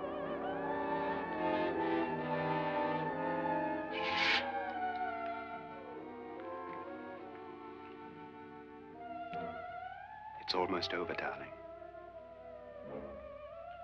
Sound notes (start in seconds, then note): 0.0 eerie music; 3.9 curtains slide; 6.4 eerie music